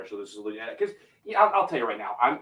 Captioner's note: voice muffling